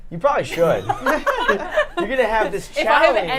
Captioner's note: everyone laughs